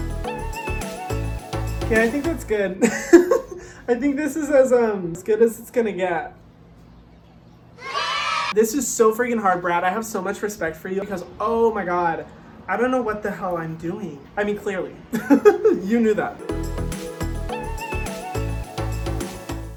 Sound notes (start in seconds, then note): 3.3 laughs; 7.8 cheering; 15.4 laughs; 16.4 dance music play; 19.7 distorted Voice